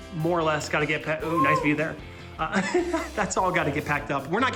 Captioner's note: laughs in embarrassment